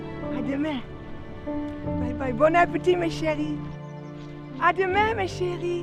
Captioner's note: Pauline speaking in French